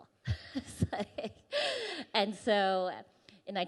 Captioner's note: chuckles